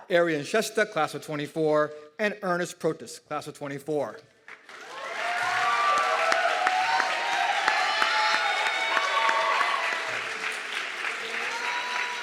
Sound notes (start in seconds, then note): 4.4 audience clapping and cheering